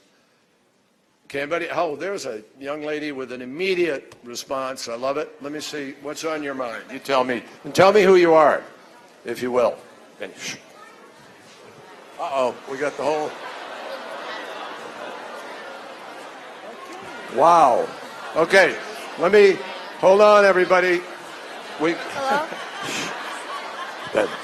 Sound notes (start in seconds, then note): 14.4 laughter